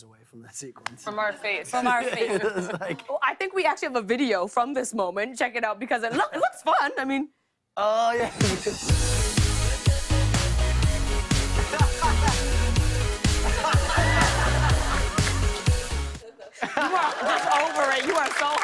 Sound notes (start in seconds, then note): 11.4 laughter